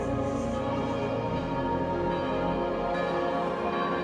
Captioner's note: chruch bells tolling